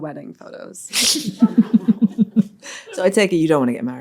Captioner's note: all laughing